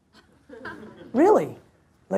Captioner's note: audience laughs